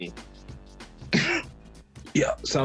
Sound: coughs

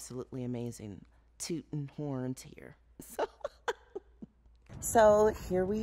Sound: chuckles

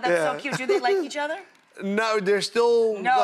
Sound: laughs

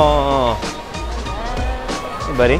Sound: groans

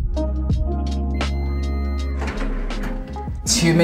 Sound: microwave beeps

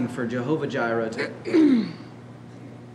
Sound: clears throat

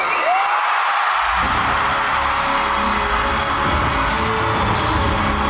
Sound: With MY's loud cheers

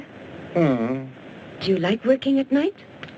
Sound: man moans

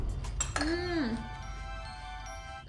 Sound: dishes clink

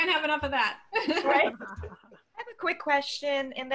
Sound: laughter

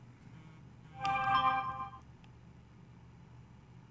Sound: cellp hone ding

